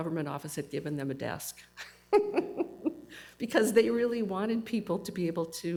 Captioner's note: laughs